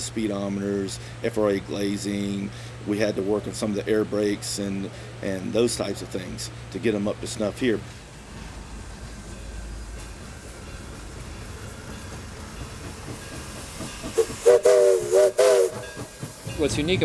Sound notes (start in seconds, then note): 9.2 railroad crossing bell; 12.8 chugging engine; 14.1 train whistle